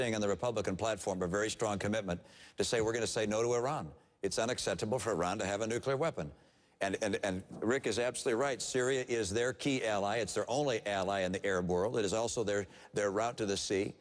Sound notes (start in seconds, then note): none